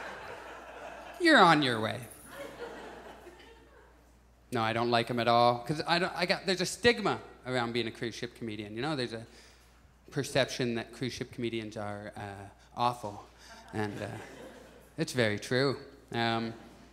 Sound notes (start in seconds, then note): 0.0 audience laughs; 2.3 audience laughs; 13.5 audience chuckles